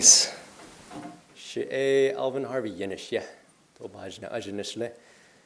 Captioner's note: diné speech